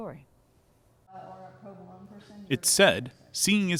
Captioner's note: background chatter